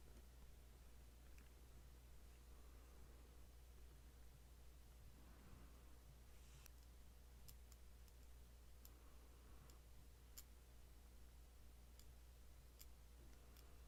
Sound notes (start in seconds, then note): 0.6 pen twiddling sounds